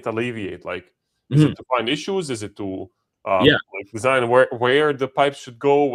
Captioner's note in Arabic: يُصفّي حلقه